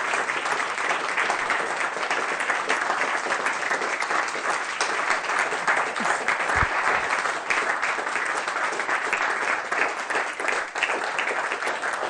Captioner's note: applause